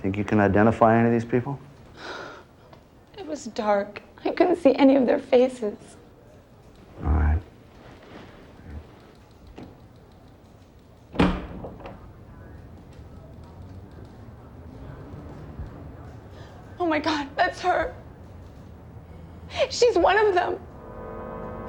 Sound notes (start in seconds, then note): 1.9 sighs; 9.9 typewriters clacking; 21.4 suspenseful music